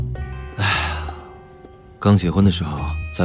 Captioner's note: sighs